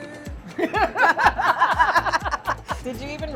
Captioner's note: both laughing